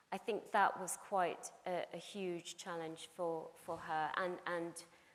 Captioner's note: none